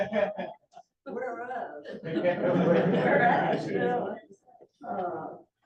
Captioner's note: laughter